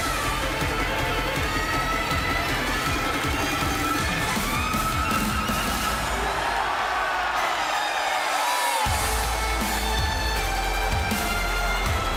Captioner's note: cheers and applause